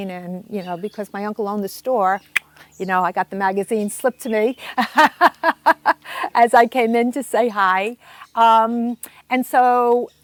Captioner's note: laughing